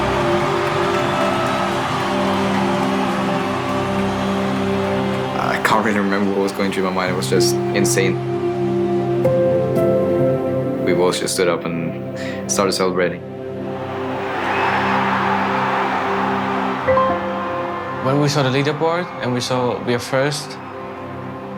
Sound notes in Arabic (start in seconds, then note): 14.6 تشجيع الجمهور